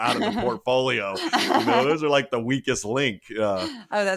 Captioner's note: laugh